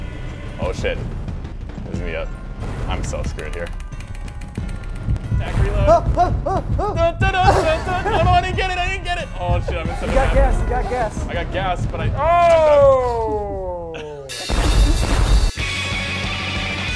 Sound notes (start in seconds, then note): 13.1 laugh